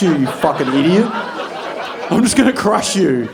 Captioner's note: audience laughing